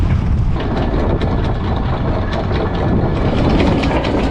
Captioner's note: chain clanking